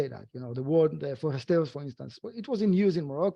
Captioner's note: speaking foreign language